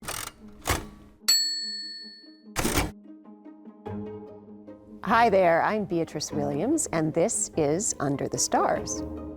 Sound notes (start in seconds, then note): 1.3 bell chiming; 2.6 typewriter clacking; 3.1 light upbeat music